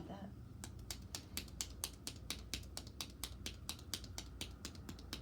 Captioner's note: hands tapping